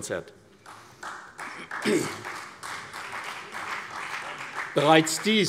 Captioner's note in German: Beifall CDU und BÜNDNIS 90/DIE GRÜNEN